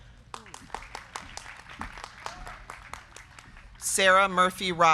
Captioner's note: crowd clapping